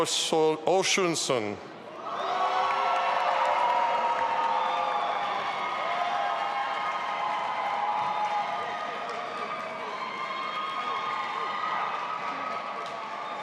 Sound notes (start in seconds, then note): 2.5 audience applauding and cheering